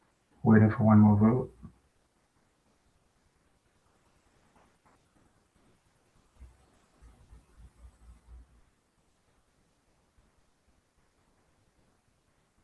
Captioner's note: pause